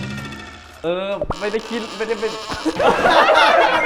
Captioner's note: stuttering